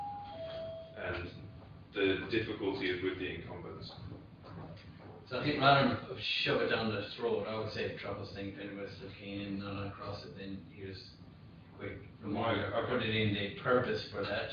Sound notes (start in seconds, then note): 9.4 audio distorts